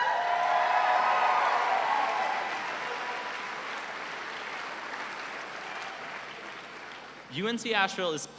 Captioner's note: cheers and applause